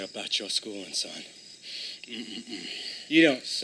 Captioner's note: inhales; breathes heavily